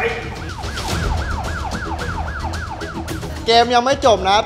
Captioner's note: siren wailing